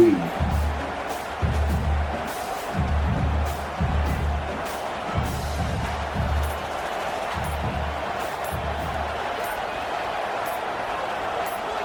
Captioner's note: crowd Noises